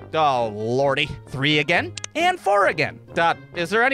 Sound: click!

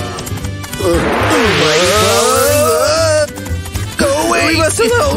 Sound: scared scream

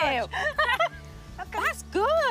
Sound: they laugh

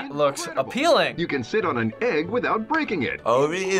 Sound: voice-over

